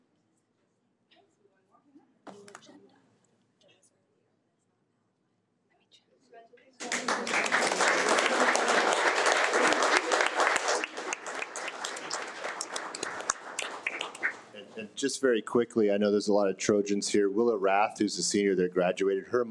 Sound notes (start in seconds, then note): 6.8 audience applauding